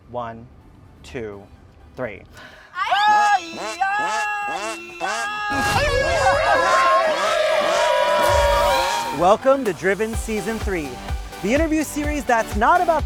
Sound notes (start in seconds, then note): 3.2 horn and alarm vocalizing